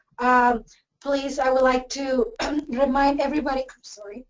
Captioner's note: coughs